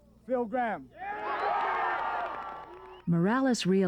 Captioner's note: cheers and applause